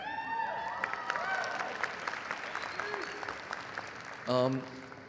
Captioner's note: audience cheering and applauding